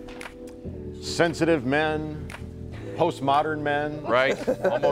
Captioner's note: laughter